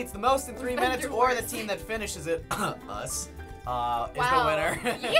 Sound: coughs

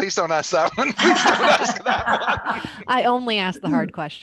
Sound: participants laughing

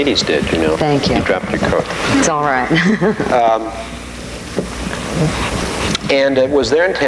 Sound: laughing

